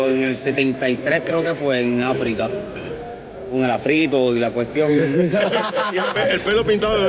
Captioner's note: laughs